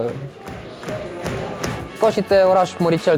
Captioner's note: fans chanting